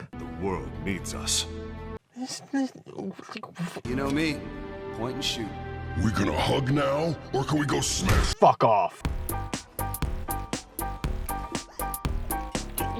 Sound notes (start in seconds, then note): 2.2 angry baffled noises